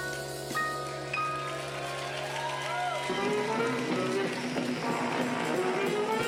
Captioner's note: applause; big band music